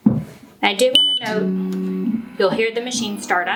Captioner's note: machine buzzing